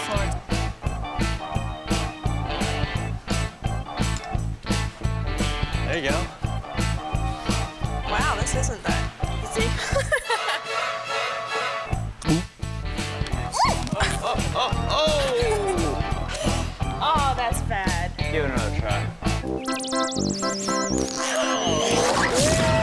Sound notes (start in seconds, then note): 0.0 energetic music; 8.5 laughs; 10.3 scary music; 11.7 upbeat music; 13.5 shouts; 15.6 laughs; 19.7 lighthearted music